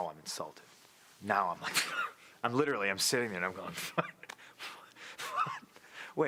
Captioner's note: laugh